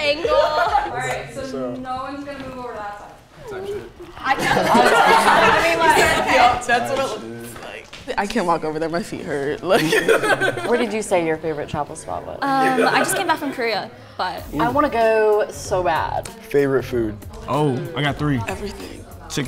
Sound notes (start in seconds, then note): 3.4 group laughs; 9.7 laughs